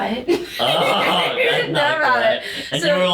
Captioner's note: laughter